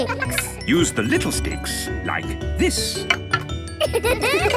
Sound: laughter

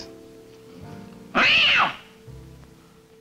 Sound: cat meowing

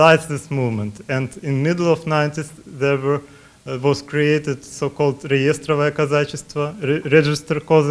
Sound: russian

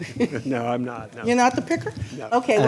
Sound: laughs

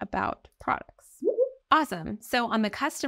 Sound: chat bubble blooping

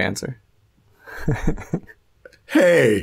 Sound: chuckles

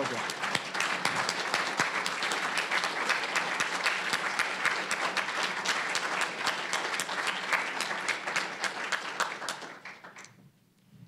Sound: applause

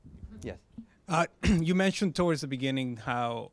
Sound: voiceover

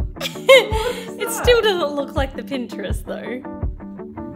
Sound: laughs

